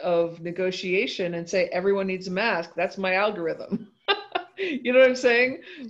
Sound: laughs

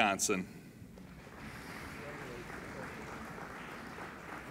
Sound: applauding

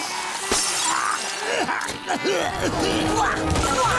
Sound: coughing

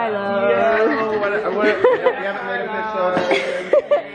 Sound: overlapping chatter

